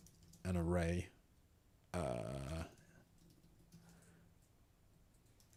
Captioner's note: typing